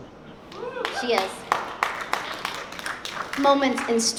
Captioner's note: applause